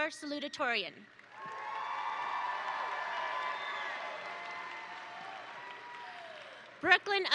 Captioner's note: attendees cheer; attendees applaud